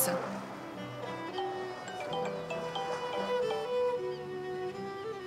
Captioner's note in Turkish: Telefon çalıyor